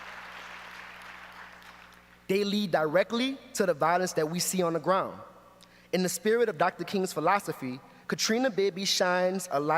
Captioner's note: applause